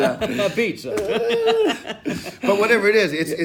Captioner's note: laughing